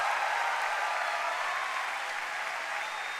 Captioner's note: applause